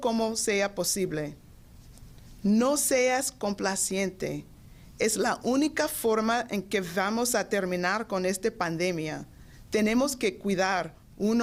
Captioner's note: speaking Foreign Language